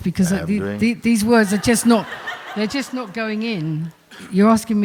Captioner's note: laughter